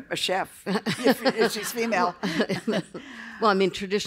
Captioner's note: laughter